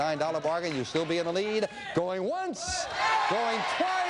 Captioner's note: audience yells